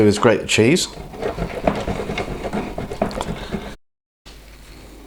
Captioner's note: cheese grater noises